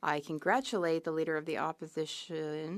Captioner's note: speaking French